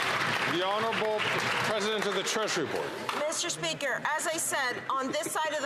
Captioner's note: some Applause